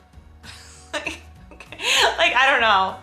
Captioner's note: chuckles